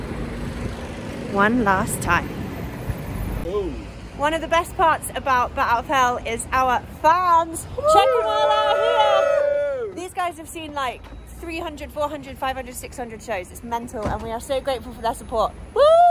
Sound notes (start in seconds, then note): 7.8 cheering